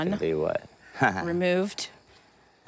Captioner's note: laughs